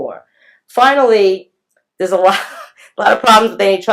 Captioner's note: laughs